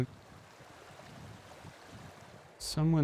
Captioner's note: water rushing